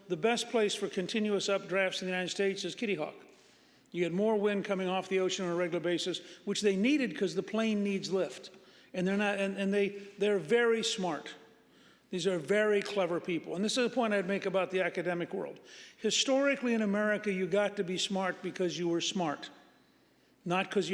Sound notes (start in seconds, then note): none